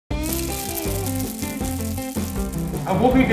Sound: pan sizzles; upbeat music

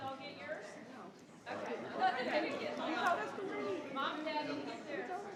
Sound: crowd chattering

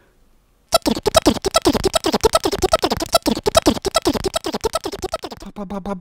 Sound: funny motor sound

